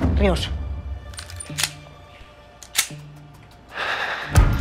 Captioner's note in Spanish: Sonido al enristrar el arma